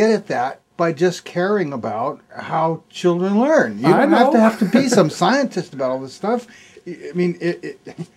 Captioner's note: laughs